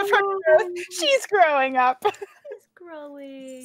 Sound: laughs

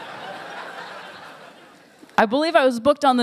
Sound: laughter

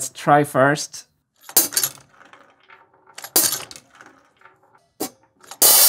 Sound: marble gates ringing; cymbal

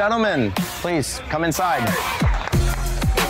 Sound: cheers

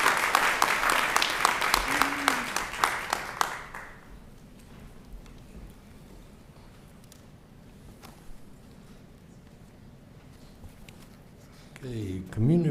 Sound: applause

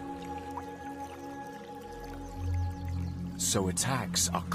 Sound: water splashes

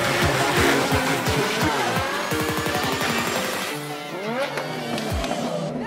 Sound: excited clapping

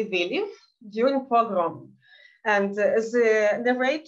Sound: speaking in Yiddish

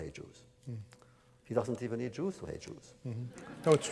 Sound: laughter

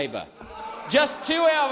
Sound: crowd jeers

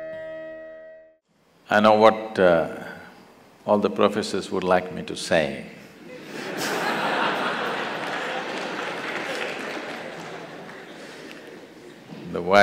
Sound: laughter/Applause

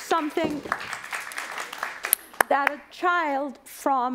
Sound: applause

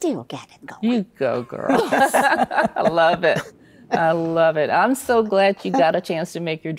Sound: laughs

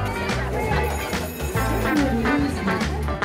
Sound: bell rings

